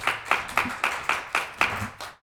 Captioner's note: applause